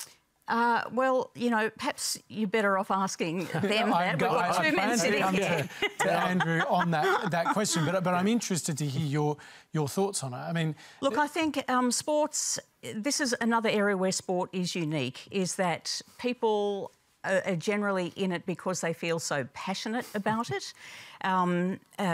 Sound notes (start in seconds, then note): 4.6 chuckles; 6.2 laughs